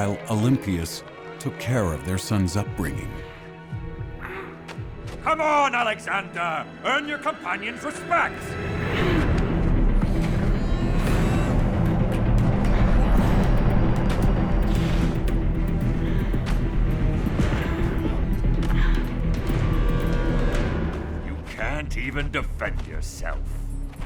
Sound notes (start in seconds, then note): 4.4 boys grumbling; 9.4 boys grumbling; 17.6 suspenseful music